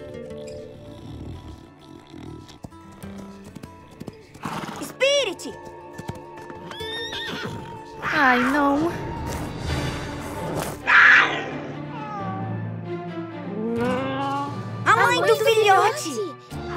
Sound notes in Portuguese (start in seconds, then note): 0.2 cavalos roncando; 4.1 cavalo resfolegando; 6.6 cavalo relinchando; 9.0 música dramática; 9.2 leão urrando; 10.7 leão miando; 11.9 filhote miando; 16.1 música dramática